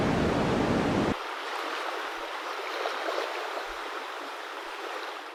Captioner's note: water gushing